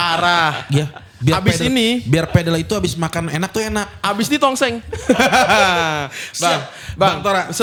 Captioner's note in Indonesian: tertawa